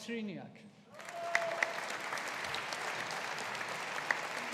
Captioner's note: audience applauding